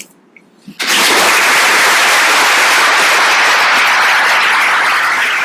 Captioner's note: audience applauding